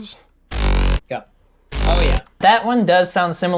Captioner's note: bass sound effect